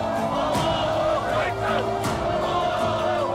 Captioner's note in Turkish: Hep bir ağızdan